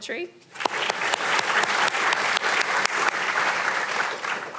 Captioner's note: audience applauding